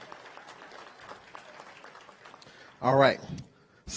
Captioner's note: audience applauds